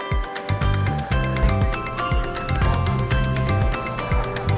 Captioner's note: bright music; customers chattering